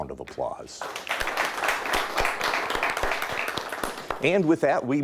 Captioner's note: audience applauds